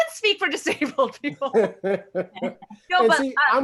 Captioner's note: laughs